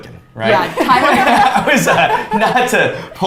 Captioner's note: both laughs